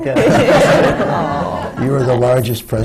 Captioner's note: laughter